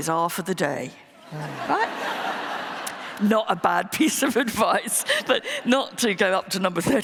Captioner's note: laughter